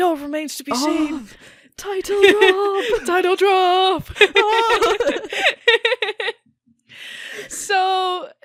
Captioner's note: both laugh